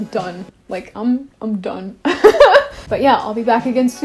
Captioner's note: laughs